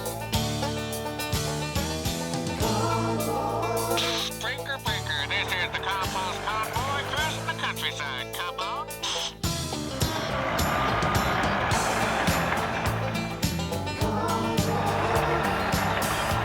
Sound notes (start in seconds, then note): 9.0 static